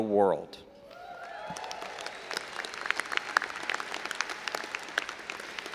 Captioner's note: audience applauding and cheering